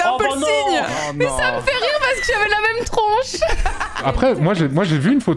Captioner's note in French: rire triste